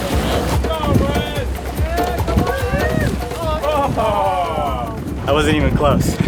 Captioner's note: cheering